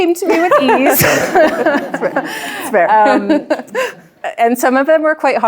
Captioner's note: chuckles